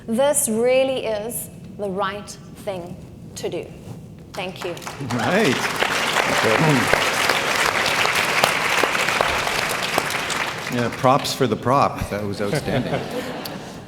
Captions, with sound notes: This really is the right thing to do. Thank you. (audience clapping) - Props for the prop. That was outstanding.